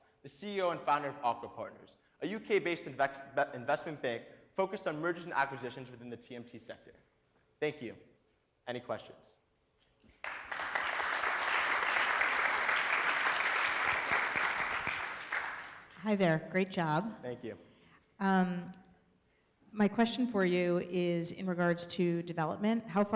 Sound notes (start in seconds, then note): 10.1 applause